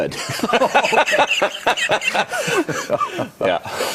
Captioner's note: laugh